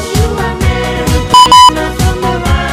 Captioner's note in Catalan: doble bip